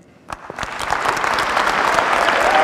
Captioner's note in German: Applaus